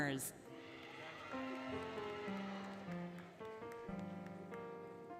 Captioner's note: applause, Cheering, Music